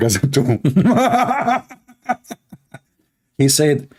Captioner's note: Ketawa